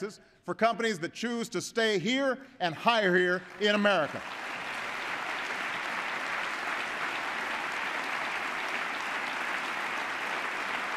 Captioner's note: applause